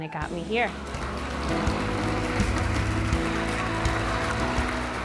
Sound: applause

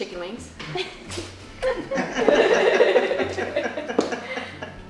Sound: women laughing

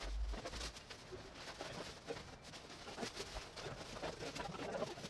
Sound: fast scurrying around noise

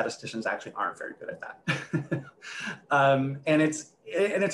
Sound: laughs

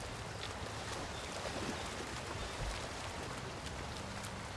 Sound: water splashing

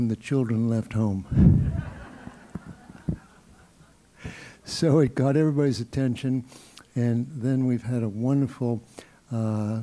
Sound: laugh

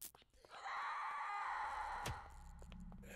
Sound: screaming

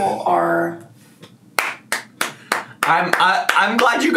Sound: laughs and applauds

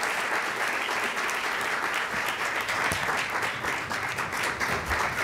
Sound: applause

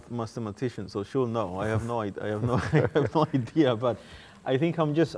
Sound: laughing

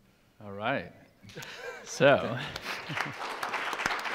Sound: laughing; audience applauding

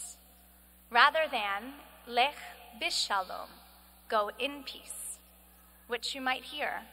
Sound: speaking hebrew

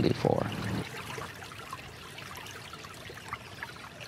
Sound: water rustles

